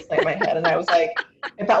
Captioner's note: laughs